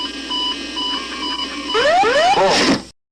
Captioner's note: GPWS: Whoop Whoop Pull